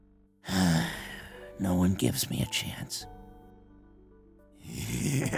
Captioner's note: sigh; maniacal laughter